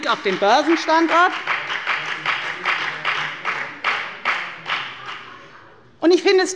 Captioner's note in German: Beifall bei der FDP